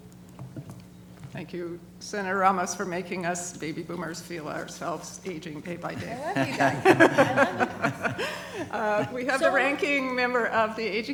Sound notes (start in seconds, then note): 7.8 laughter